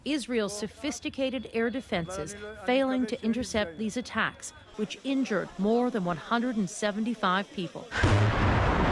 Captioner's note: bombing